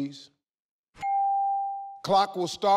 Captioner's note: clock dings